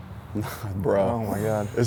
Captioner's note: chuckles